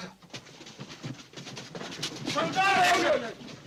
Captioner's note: feet scrambling